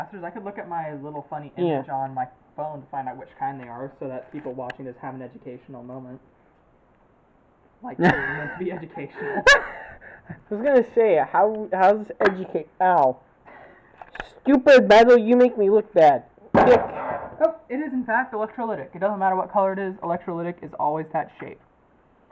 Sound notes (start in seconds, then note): 8.0 laughing